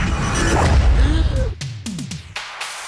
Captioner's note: Will gasps; upbeat music